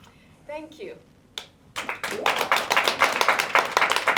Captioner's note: applause